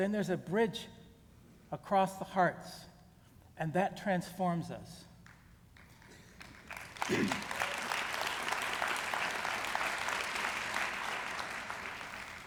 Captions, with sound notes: then there's a bridge across the hearts, and that transforms us. -[applause]